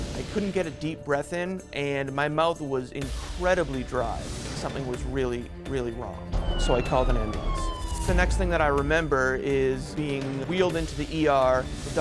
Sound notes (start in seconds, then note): 6.3 ambulance sirens